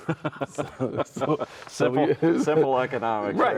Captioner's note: chuckles